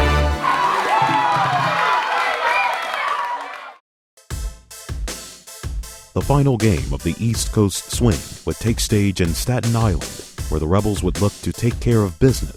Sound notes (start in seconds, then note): 6.3 voiceover